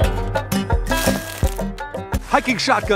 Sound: upbeat music; leaves crunching sound

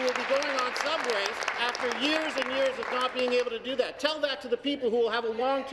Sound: applause

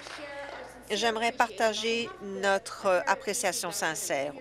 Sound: applause

